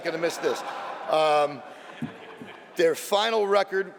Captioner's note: laughter